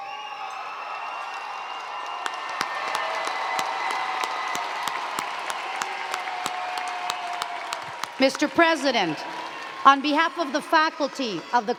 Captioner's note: cheers and Applause